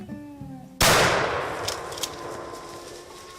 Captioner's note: gunshot